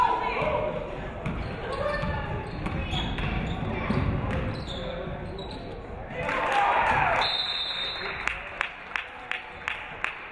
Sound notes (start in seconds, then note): 7.2 referee whistles; 7.4 audience clapping